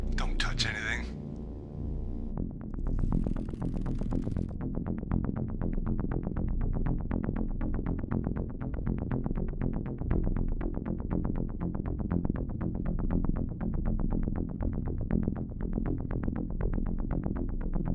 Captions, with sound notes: Don't touch anything. (suspenseful synth music) (shoe leather creaks)